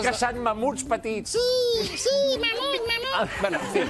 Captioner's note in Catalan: veu aguda